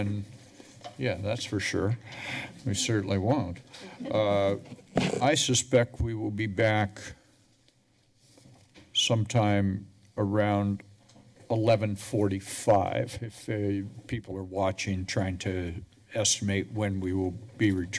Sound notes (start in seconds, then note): 4.0 laughter